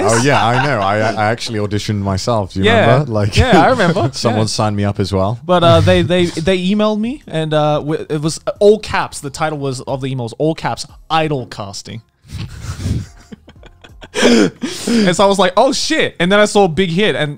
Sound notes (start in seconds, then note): 12.4 both chuckling